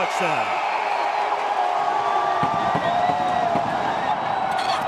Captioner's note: cheering